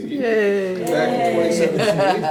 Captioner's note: mild cheers